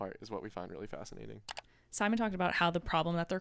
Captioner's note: computer mouse clicking